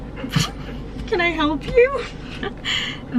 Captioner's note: laughs